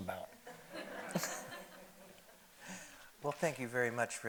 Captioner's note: audience laughing